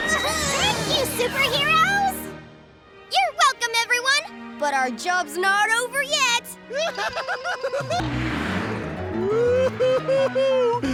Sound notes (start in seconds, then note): 6.7 Bubble Maker laughing; 9.0 laughing